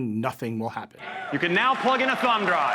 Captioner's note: audience applauds